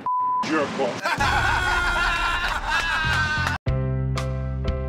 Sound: laughter

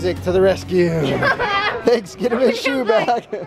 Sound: laughs

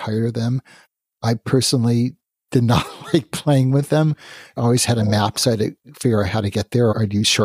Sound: laughs

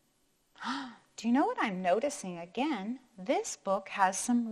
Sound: gasps

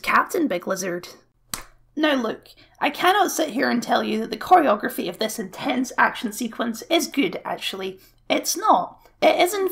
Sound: claps Fist

